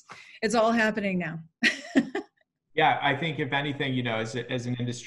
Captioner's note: laugh